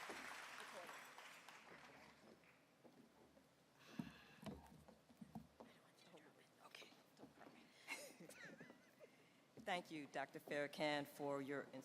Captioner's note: applause